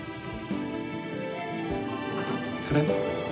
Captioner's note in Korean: 엘리베이터 도착음